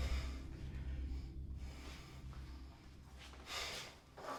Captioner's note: Max huffing